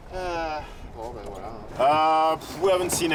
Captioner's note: sighs